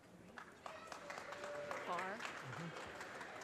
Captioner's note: audience cheers and applause